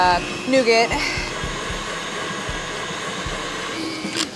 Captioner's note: whirring